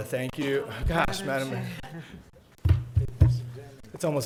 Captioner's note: chuckling